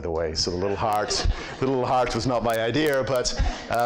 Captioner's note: laughs